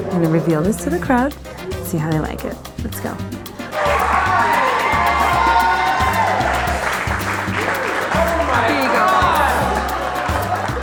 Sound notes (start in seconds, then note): 3.6 crowd applauding and cheering